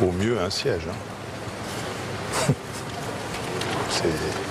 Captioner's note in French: il ricane